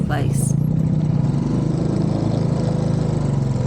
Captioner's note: motorbike engine